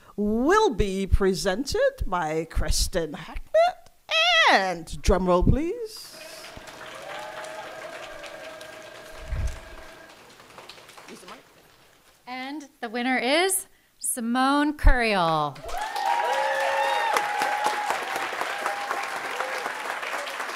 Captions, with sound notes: will be presented by Kristen Harknett. And drum roll please. (audience applauding) - And the winner is Simone Kurial. (audience applauding and cheering)